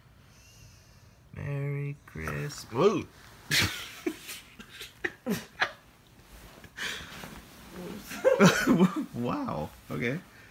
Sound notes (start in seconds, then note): 3.4 laughing